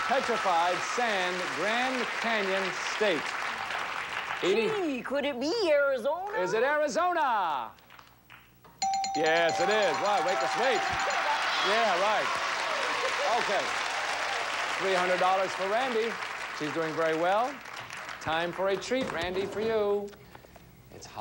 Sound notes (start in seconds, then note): 9.4 audience cheering